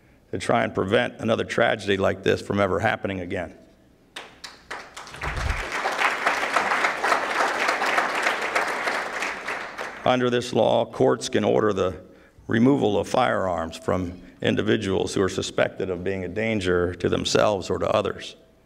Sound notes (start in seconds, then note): 4.1 applause